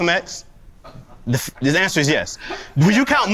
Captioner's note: laughs